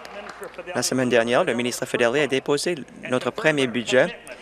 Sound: applause

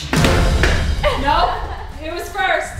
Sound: laughing

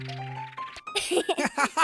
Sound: giggling

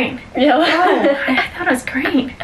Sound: laughs

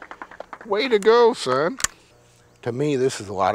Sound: applause

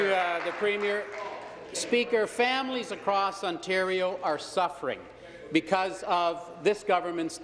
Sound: applause

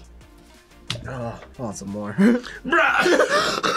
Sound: laughs; coughs

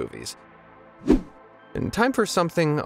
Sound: video whooshing

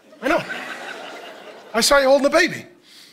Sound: congregation laughing

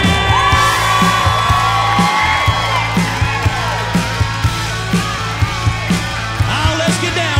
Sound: guitar solo plays; crowd cheers

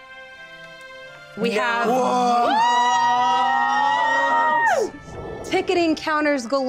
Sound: group exclaiming

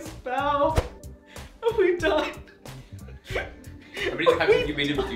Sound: laughing

